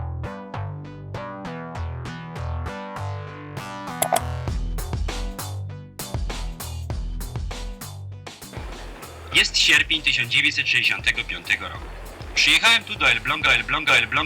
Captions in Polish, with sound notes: (kliknięcie myszką) Jest sierpień 1965 roku. (głos z offu) Przyjechałem tu do Elbląga, Elbląga, Elbląga...